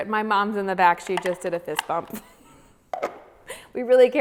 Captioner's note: laughs